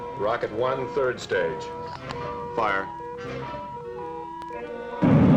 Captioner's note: rocket rumbling